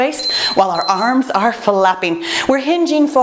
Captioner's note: timer beeps